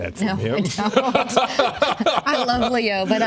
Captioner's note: laughter